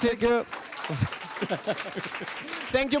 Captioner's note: applause